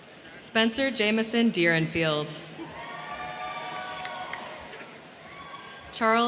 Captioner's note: crowd cheering